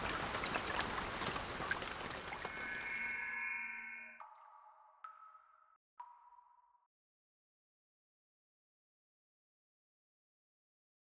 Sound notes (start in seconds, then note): 0.0 rain; 4.3 rain dripping